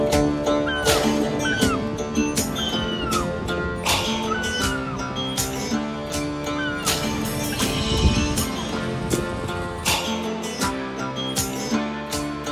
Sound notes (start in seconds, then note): 0.4 seagull squawking; 9.0 funky music continues